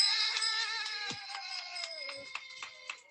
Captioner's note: bell ringing; hands clapping